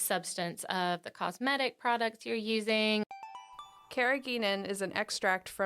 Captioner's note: chime